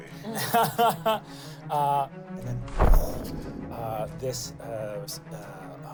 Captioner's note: laughs